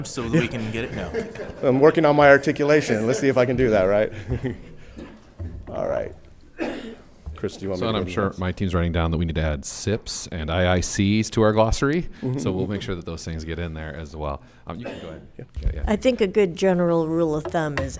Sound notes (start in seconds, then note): 1.6 all laughing; 2.7 laughs